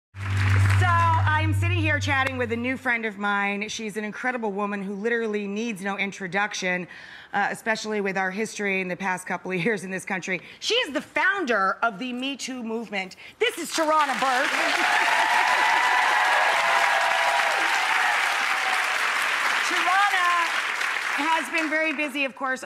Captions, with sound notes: So, I'm sitting here chatting with a new friend of mine. She's an incredible woman, who literally needs no introduction, especially with our history in the past couple years, in this country. She is the founder of the Me Too movement. This is Tarana Burke. (cheering and clapping) Tarana has been very busy, of course,